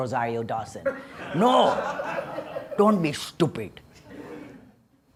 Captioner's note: laughter